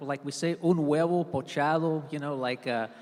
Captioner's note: speaks in Spanish